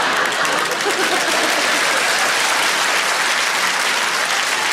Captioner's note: audience laughing; audience clapping